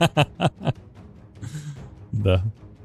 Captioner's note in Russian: смех